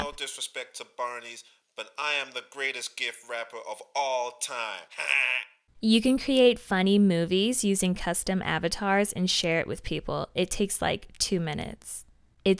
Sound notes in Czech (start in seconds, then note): 4.8 směje se